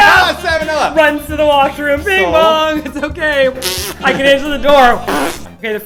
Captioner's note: poop sounds